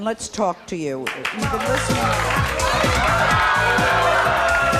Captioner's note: audience shouting